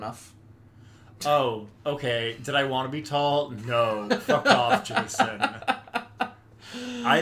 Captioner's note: laughs